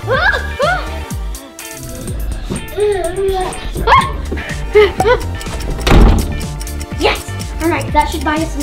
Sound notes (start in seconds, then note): 4.9 clock ticking